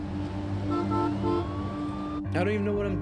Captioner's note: emergency sirens wail; car horn beeps